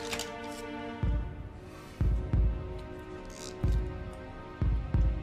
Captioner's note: rhythmic beating